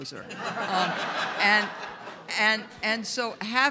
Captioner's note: audience laughs